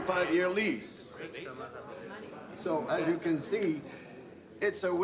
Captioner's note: audience chattering